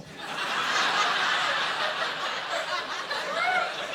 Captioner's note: audience laughing